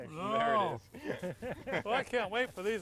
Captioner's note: all chuckling